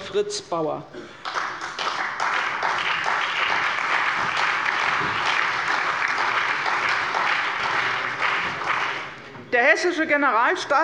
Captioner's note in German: Allgemeiner Beifall